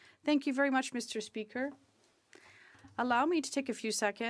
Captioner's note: speaking French